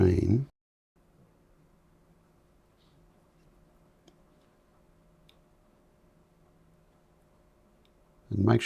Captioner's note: silence